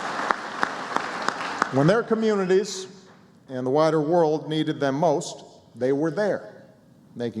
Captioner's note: applause